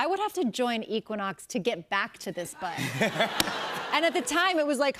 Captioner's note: laughter